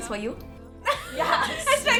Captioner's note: laughs